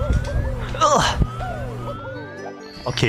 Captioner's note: groan of overcoming